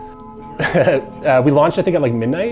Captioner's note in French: en riant